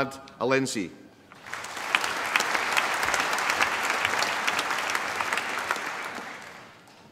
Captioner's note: applause